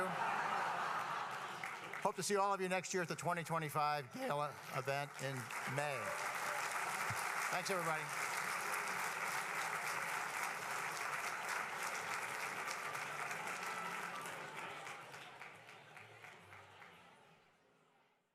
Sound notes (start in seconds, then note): 0.0 laughter; 8.0 applause